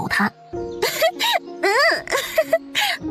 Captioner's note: chuckles